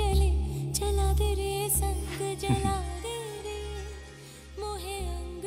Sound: laughs

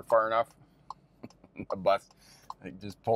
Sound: car signal clicking

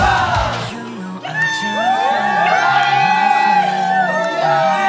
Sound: cheer

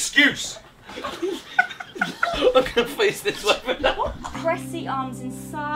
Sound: group laughing

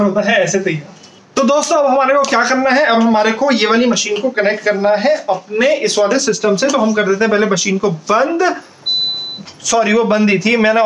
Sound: beep

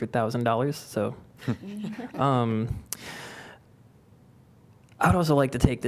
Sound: laughter

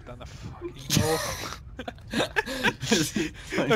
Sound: slight laughter combined with sadness

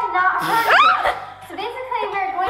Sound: laughs

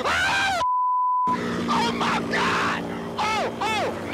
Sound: screams; laughs

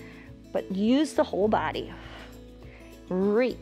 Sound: exhales

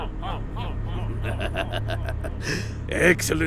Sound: evil laughter

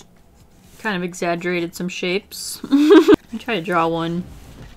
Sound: laughs

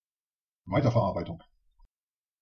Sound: fast Pronunciation

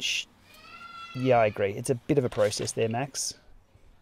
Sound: baby cries

